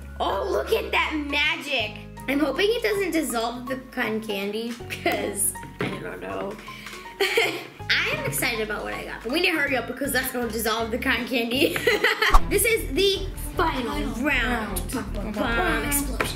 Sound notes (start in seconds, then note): 11.6 laughs